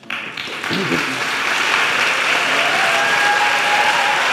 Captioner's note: audience applauding